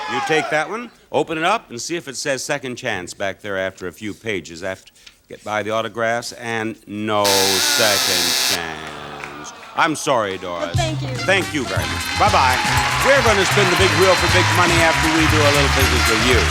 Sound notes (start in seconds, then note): 0.0 audience shouting; 7.2 buzzer sounding; 8.0 audience groaning